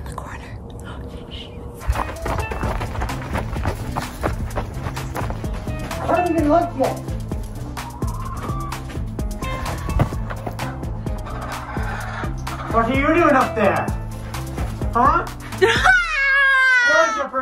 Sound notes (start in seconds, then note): 1.8 footsteps; 8.2 chickens clucking; 15.7 yells